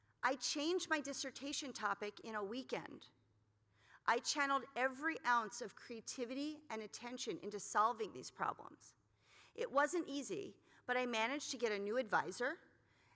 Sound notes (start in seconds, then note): none